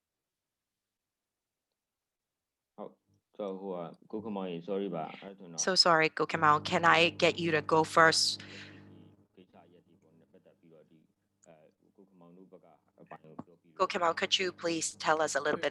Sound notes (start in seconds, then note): 2.7 speaking burmese